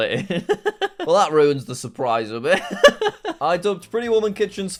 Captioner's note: laughs; laughs